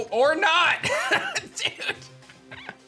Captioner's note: chuckles